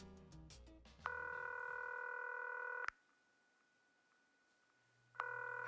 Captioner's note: phone rings